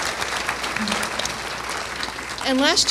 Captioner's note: applause